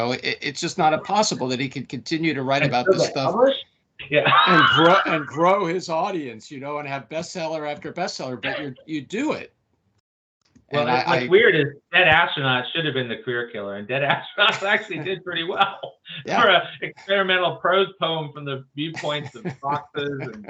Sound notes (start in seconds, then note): 4.1 laughs; 14.0 laughs